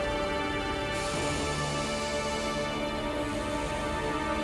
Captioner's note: Bernard sniffing